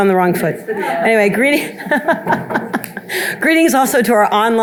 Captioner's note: laughing